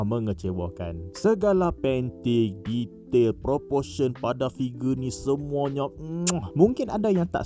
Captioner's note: muah